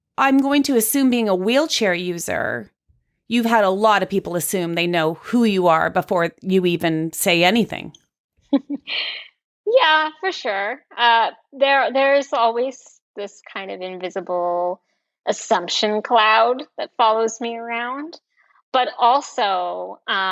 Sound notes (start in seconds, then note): 8.5 chuckles